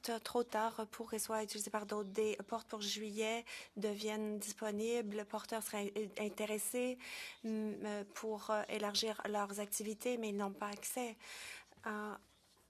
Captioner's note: speaking French